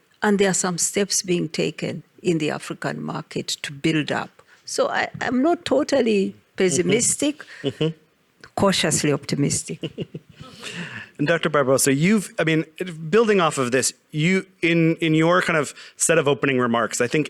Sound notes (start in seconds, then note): 9.7 laughs; 9.7 audience laughing